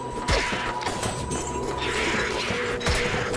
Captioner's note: monsters grunting; coins rattling; monsters grunting